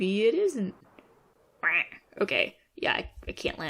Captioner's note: duck quack